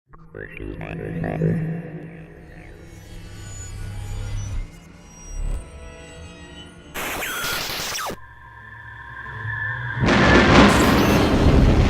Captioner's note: sound Effects